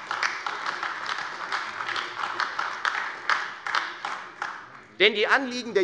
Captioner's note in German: Beifall Freie Demokraten und AfD